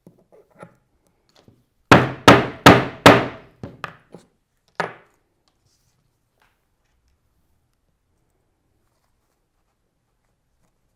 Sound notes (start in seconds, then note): 1.9 mallet thudding